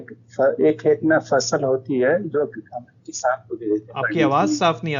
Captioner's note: distorted